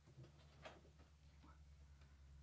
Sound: whispers

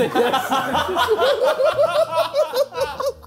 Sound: laughing

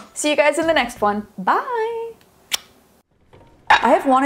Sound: smack lips

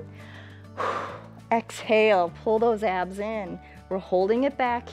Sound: exhales

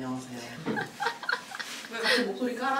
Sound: laughing

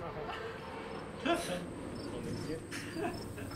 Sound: laughing

